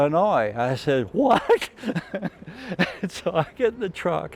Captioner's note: laughs